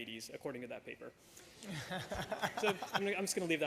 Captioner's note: laughter